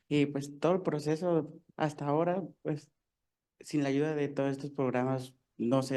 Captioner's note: speaking in foreign language